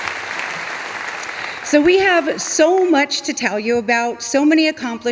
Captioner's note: audience applauding